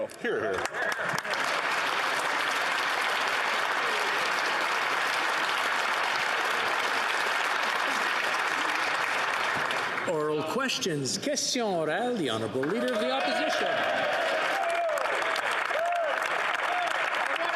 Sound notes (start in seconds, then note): 12.3 applause; 14.3 speaking French; 17.3 some Applause